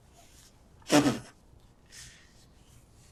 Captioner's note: pauses 6 seconds; wiping nose